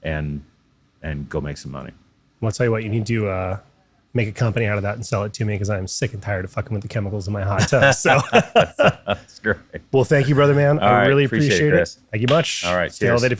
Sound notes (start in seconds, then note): 7.5 laughing